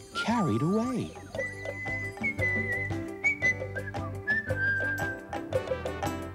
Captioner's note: whistling